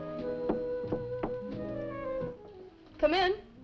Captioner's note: knuckles rapping